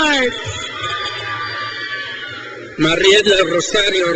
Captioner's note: crowd cheers